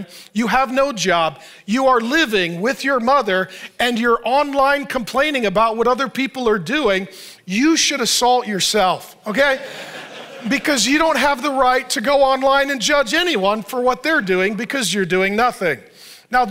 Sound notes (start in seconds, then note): 9.5 audience laughs